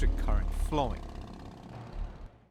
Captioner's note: engine revving